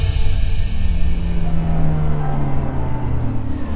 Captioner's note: Car halting